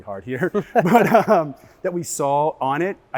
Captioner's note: laugh